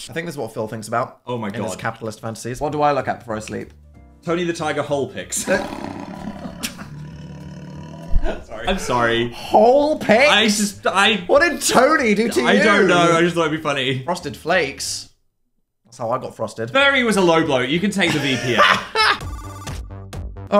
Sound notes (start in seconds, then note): 5.3 tiger growling; 6.1 both laughing; 18.0 Dan laughing